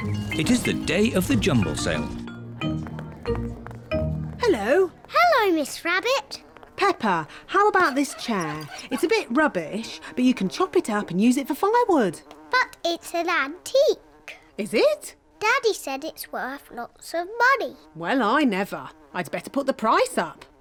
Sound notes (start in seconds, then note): 6.7 flies buzzing